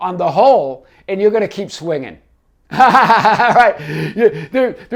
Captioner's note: laughing